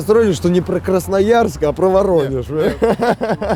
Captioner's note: laughs